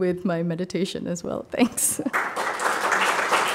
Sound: chuckles; audience applauding

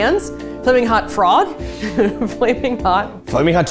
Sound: laughing

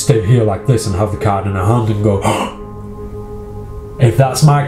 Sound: gasps

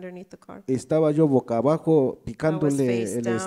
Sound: speaks in foreign language

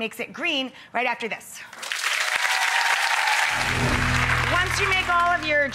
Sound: audience applauds

